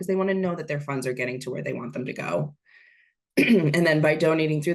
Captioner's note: clears throat